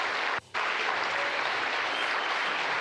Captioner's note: applause